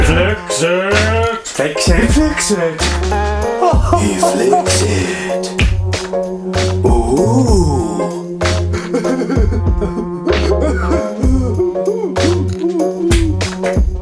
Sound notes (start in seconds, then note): 0.0 laughs; 9.1 sobs